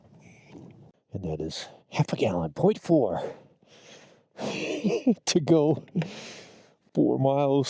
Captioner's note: laughing